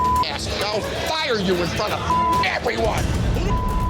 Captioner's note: beep; beep